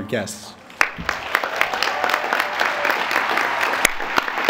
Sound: applause

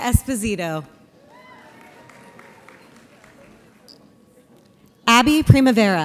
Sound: audience applauds

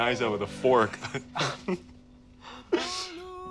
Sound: both chuckle

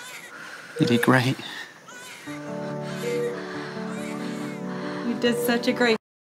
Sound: Lilo and stitch, brother bear, barbie Mattel doll crying continues; Lilo and stitch, brother bear, barbie Mattel doll crying continues

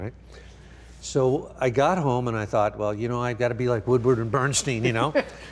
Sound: laughing

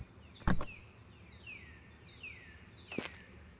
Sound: door thunks

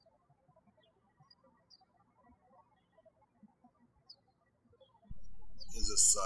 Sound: birds chirping

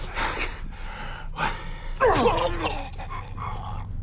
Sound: stab

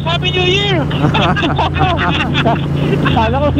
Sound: group laughing

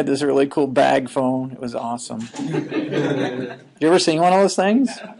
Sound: students laughing

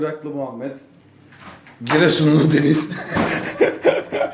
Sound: laughter

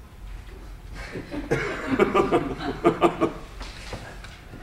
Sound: laughs

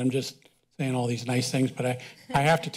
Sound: laughter

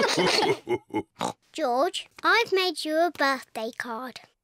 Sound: all laugh; oinks

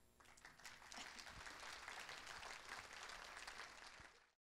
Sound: audience applauds

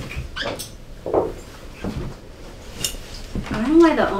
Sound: mugs thumping

